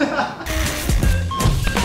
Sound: laughter

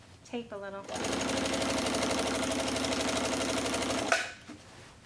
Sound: machine whirs

